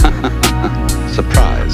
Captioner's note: man laughs